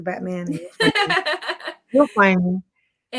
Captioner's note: laughing